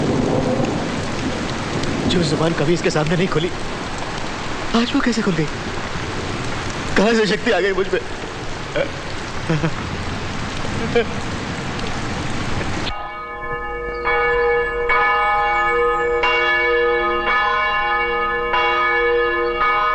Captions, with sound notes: I could never speak in front of her, how did I talk to her today? Where did I get this strength from? (Crying) (Bell Tolling)